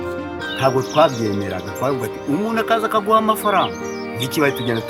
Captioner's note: speaking in foreign language